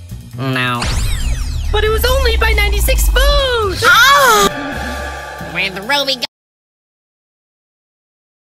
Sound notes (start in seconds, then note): 2.9 moan